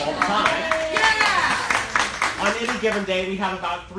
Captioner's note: cheering and applauding